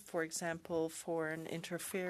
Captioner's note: speaking French